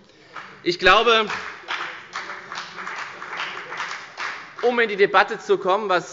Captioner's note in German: Beifall bei der FDP